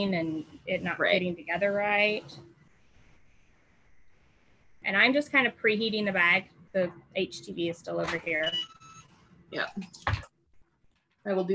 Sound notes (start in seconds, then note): 8.2 beep